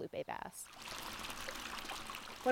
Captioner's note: water running through pipe